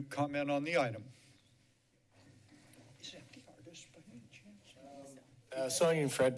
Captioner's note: background chatter